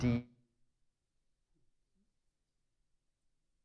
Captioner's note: audio cuts off